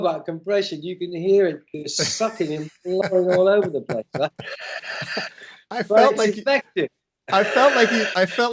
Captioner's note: laughter